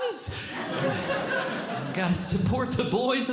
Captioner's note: audience Laughing